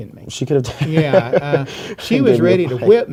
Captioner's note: laughs